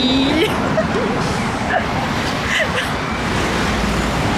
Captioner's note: laughs